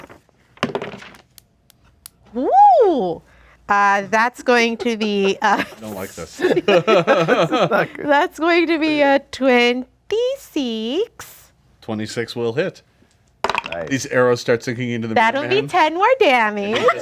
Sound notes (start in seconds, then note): 0.6 dice roll; 6.9 group laughs